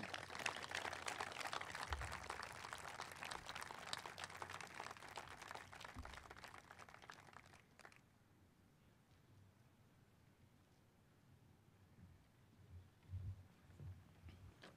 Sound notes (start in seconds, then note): 0.0 applause